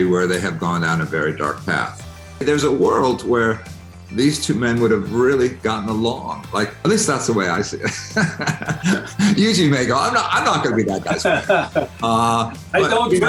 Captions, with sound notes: where they have gone down a very dark path. There's a world where these two men would've really gotten along, at least that's the way I see it. (laughs) Yuji may go, I'm not gonna be that guy's friend. - (laughs) I don't drink.